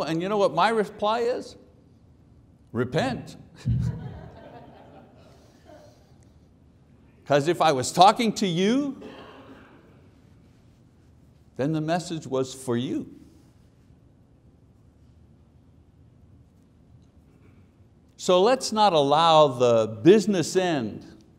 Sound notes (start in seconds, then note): 3.6 chuckles; 3.6 audience laughs